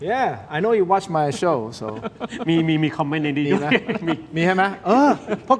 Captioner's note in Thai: เสียงหัวเราะ